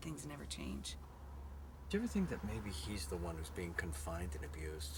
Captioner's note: none